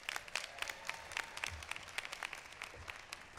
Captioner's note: applause